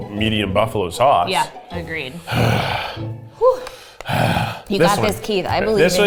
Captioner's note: sighs